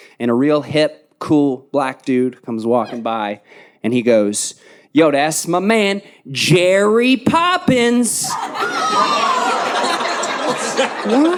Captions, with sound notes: and a real hip, cool black dude comes walking by and he goes, "Yo, that's my man, Jerry Poppins!" (audience laughing) What?